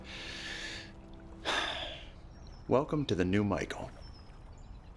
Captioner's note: sighs